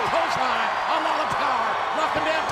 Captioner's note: audience cheers